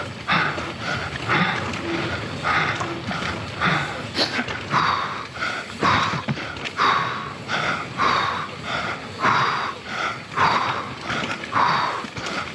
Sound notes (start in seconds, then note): 3.5 panting